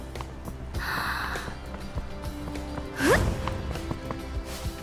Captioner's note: huff; inhale